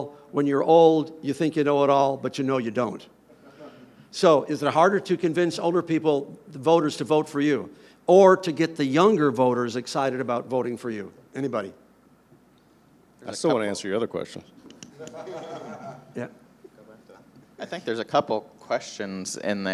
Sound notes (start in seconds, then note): 14.9 everyone laughing